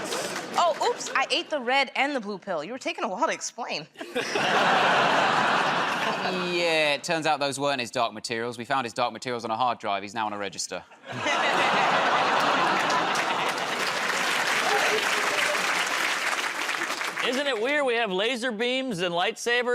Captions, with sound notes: -Oh. Oops. I ate the red and the blue pill. You were taking a while to explain. -Yeah. It turns out those weren't his dark materials. We found his dark materials on a hard drive. He's now on a register. [ Laughter ] [ Applause ] -Isn't it weird we have laser beams and light sabers